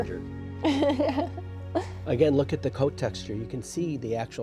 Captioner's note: laughs